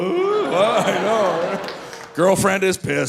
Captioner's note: audience laughing